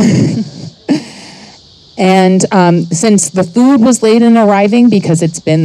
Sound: chuckles

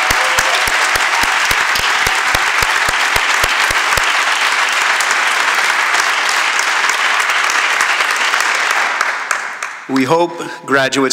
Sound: applause

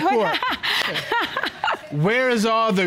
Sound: laughing

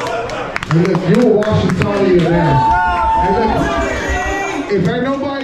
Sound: crowd cheering drowns out speech

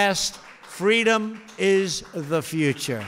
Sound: applause

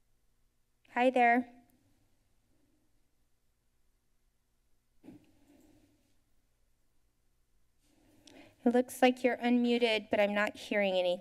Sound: silence

